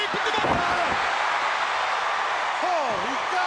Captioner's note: crowd cheers